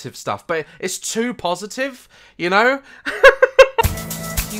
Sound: laughs

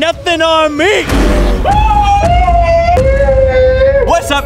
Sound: screaming

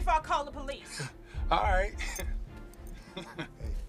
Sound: chuckling

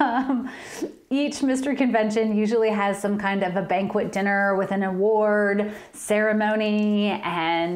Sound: laughter

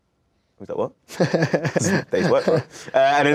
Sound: laughs

